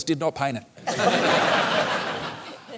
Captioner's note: laughter